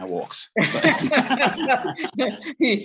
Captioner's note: both laughs